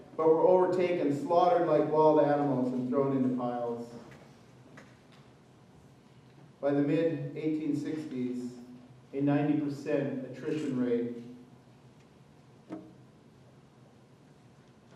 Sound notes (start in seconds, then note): none